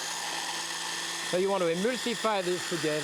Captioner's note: food processor spinning